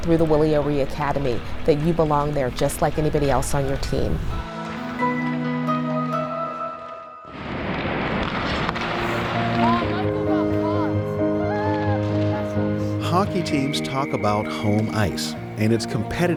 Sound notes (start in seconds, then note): 8.8 sticks clattering; 9.6 child talking